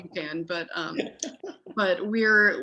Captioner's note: laughing